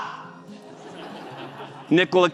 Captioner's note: crowd laughs